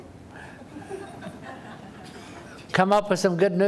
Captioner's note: laughter